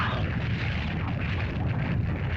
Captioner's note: lizard yelps; fire crackles; lava bubbles & flows